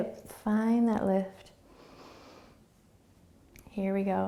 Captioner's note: inhaling